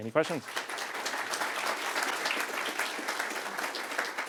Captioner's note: applause